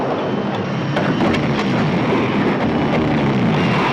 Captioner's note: roaring